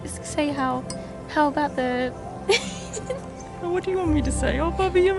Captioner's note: laughing